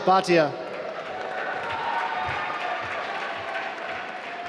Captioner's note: applause